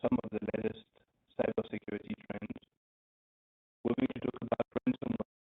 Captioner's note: audio blurs